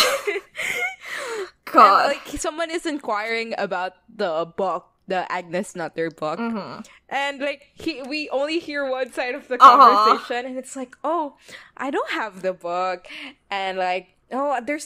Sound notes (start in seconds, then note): 1.6 laughs